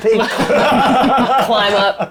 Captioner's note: laughing